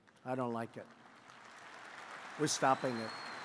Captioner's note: applause